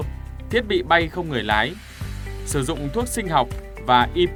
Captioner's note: drone